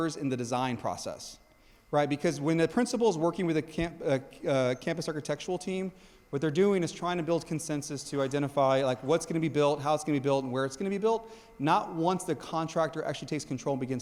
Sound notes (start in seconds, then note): none